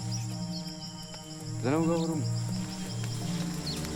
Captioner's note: speaking Kinyarwanda